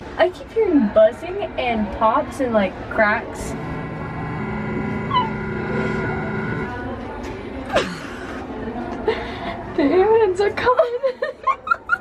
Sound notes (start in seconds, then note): 2.8 buzzing sound; 10.8 laughing